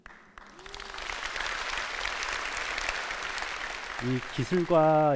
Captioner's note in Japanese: 拍手